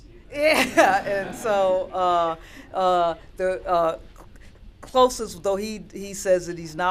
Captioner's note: laughter